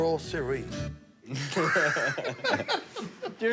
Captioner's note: laughter